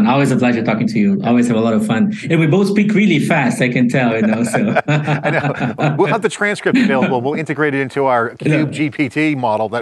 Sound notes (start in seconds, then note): 4.1 both laughing